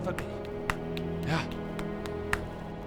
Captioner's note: belly button percussion